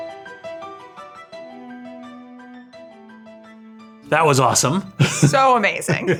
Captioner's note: laugh